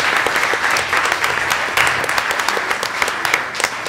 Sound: applause

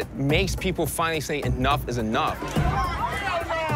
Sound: shouts

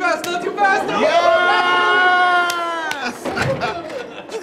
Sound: all cheering

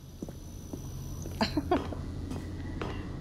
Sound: chuckle

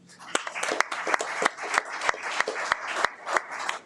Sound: audience applauds

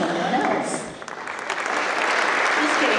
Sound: applause

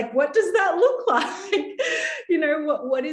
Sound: laughing

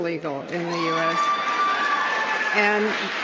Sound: cheering

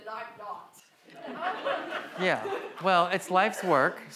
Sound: audience laughs

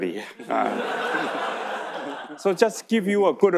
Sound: audience laughing

